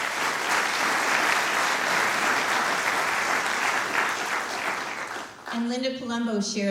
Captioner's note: applause